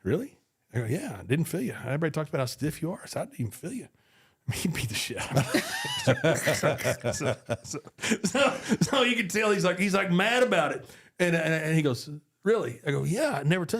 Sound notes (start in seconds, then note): 5.2 group laughs